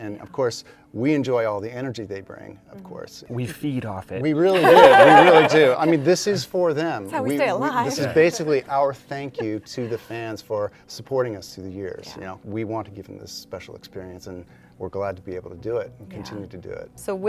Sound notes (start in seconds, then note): 4.5 laughter